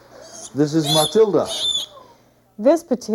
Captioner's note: pig squealing